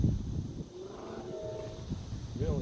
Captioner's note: 2nd Train Horn Blow far away